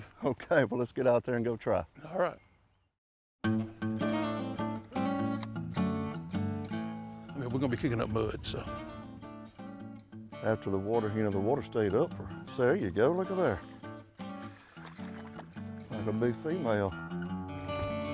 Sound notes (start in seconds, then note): 0.1 twangy acoustic music; 11.2 water splashing; 14.0 twangy acoustic music